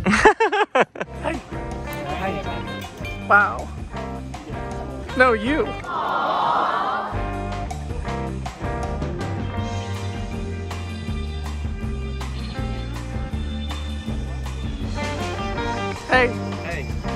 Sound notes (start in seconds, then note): 0.0 laughs; 5.8 crowd; 7.2 upbeat music continues